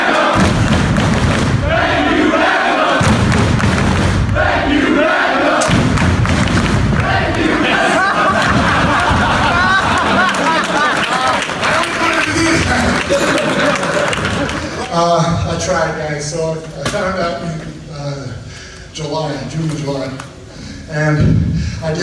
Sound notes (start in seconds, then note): 0.0 clapping